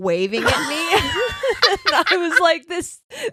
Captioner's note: laughing